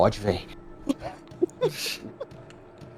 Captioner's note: laughter